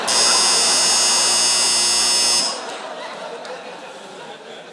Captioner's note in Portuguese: campainha